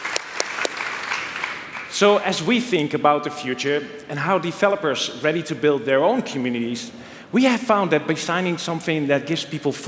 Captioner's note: applause